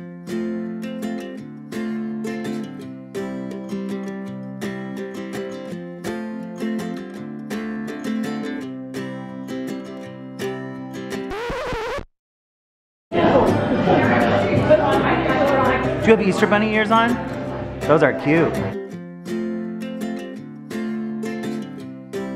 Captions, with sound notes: (record scratches) (people chattering) Do you have Easter Bunny ears on? Those are cute. (calm guitar plays)